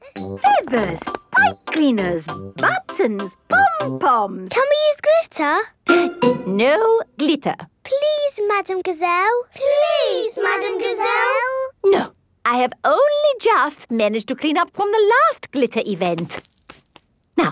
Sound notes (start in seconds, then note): 6.1 gasps